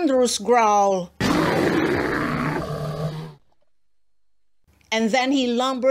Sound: sound of a thunderous bear growl

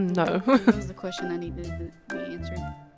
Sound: heartless mumbling question about real life elephants

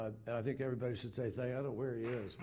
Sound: applause

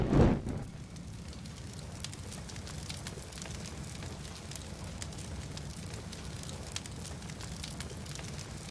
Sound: fire sounds intensify

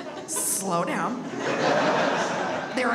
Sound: audience laughs

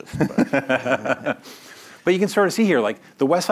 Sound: laughs

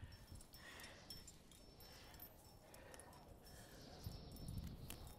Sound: gear dingles

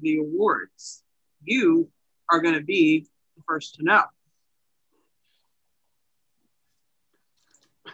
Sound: pause

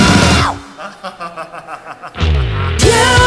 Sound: laughing

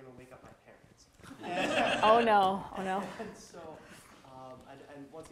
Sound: audience laughter

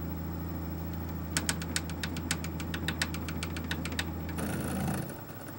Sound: rapid button presses

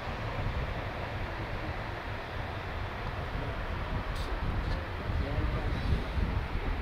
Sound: wind, ambient road noise

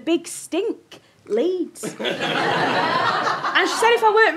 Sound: audience laughter

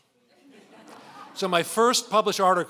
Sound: laughing

